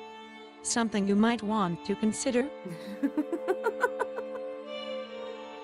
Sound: giggle

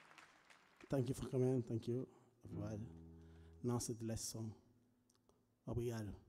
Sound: speaking language other than English

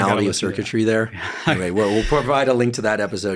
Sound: chuckling

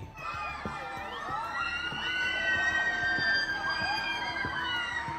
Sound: people screaming

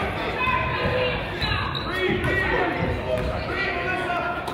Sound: coaches yell

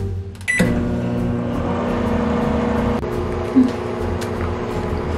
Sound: microwave revving

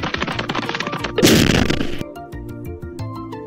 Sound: pitter patter pitter patter; boom!

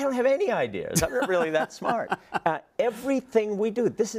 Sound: laugh

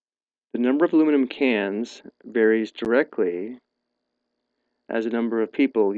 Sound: voiceover

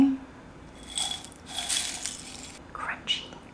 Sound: Corn Flakes rattling

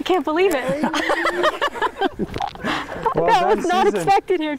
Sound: laughter

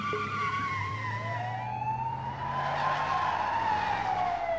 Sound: siren

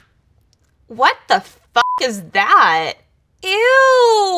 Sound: beep

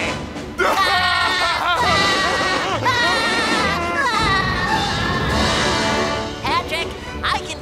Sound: laughing

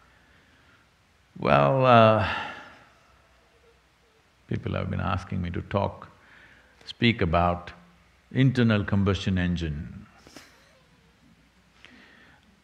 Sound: laughs

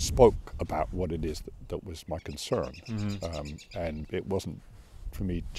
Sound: birds chirping

